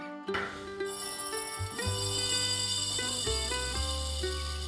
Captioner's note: grains fall